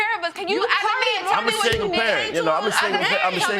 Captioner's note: both chattering